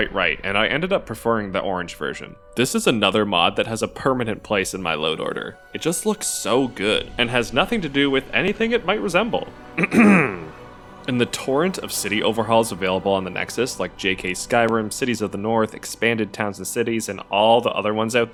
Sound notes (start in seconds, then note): 9.8 clears throat